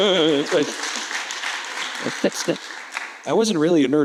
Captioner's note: audience clapping